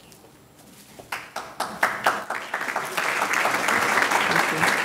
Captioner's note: audience clapping